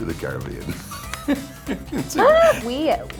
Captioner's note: Kelsey chuckles